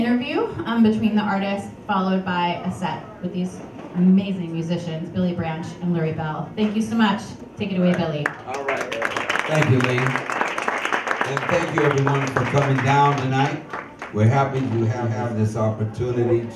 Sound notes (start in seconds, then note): 8.2 audience applause